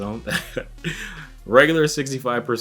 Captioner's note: chuckles